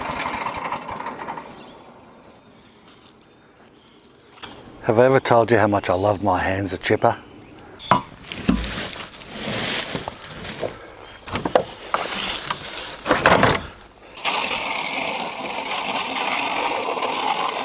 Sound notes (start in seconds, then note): 0.0 engine ceases; 7.6 leaves rustle; 13.1 table clangs